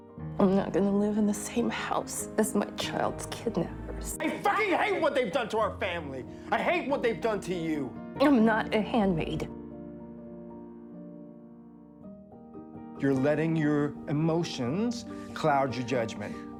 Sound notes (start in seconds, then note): 4.3 shouting; 4.7 voiceover